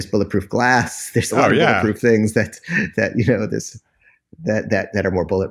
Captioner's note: laughs